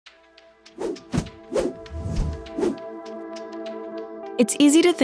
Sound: upbeat music; whooshing

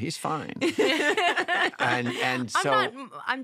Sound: laughter

